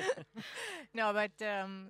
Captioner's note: laughing